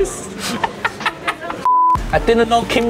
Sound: laughing

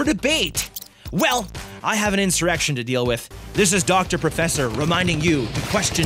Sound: laser sounds

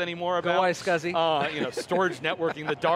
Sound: laughs

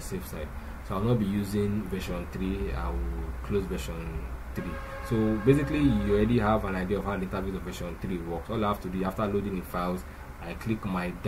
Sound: car Horn

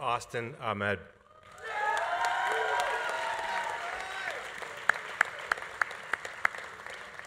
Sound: audience cheering; audience applauding

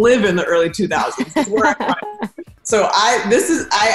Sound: laughs

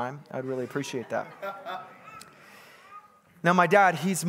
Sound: congregant laughing

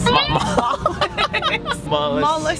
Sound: laughs

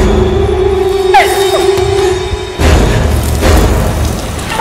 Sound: Melissa sobbing

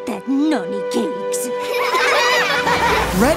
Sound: laughing

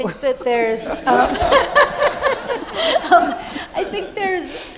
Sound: all laughing

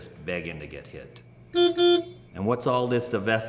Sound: car horn

